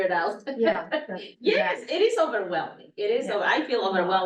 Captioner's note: laughs